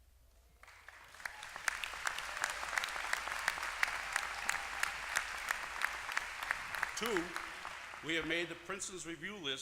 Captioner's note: applause